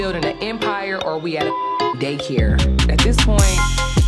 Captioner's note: beeping